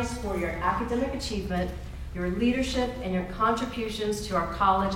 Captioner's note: none